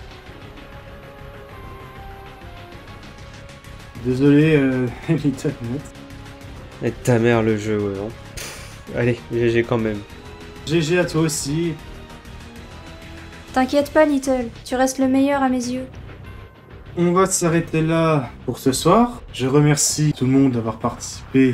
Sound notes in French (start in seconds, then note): 8.4 Soupir